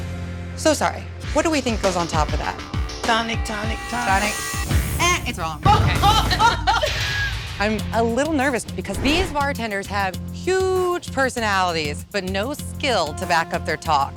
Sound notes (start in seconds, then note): 0.0 intense music; 5.8 laughter